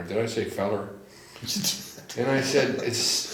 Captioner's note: laughs